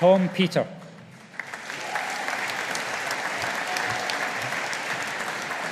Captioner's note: audience applauding